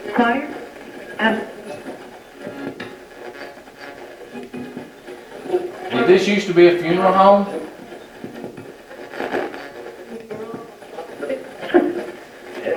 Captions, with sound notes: (radio voices) (radio channel changing) - Did this use to be a funeral home? (radio channel changing)